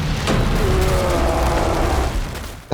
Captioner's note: The Creature roaring